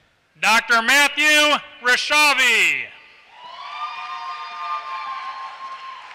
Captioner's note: applause